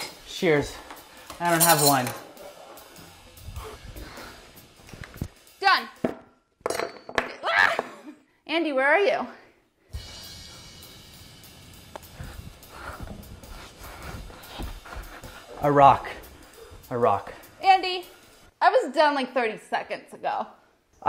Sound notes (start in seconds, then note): 7.9 yelps; 9.7 drum beat; 12.6 panting